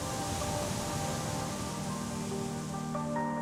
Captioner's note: ocean waves